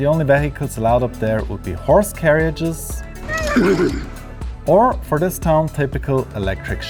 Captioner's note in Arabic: صوت الحصان